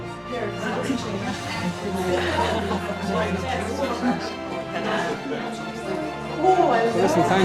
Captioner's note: lively conversations